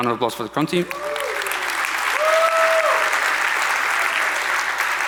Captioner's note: audience applauds